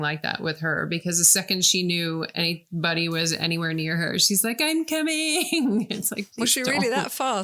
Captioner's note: laughing